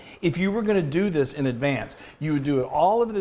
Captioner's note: none